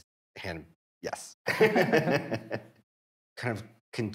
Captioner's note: all laughing